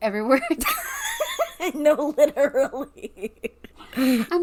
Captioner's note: laughing